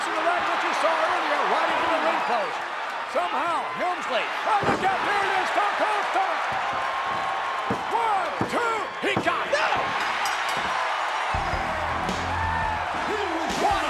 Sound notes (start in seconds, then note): 10.1 bell dinging; 11.4 hard rock music